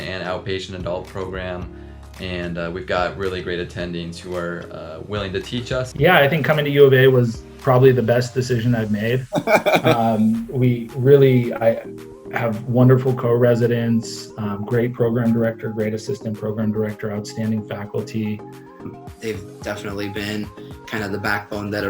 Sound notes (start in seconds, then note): 9.3 laughing